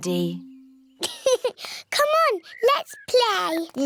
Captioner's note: laughs